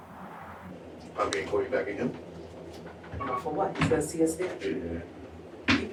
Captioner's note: people speaking to each other